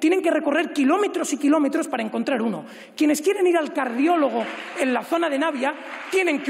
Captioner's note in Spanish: aplausos